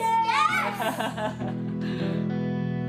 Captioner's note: laughs; light guitar music